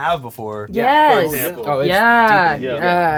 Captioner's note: group agreeing